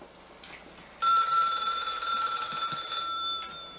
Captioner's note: ringing